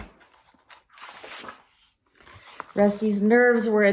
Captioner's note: turns page